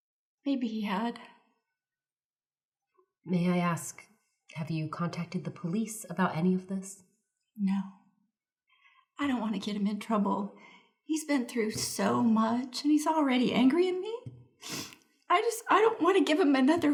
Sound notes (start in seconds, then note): 14.6 sniffles